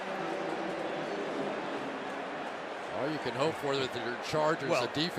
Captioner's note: announcer on pa